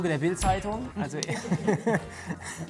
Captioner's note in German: Lachen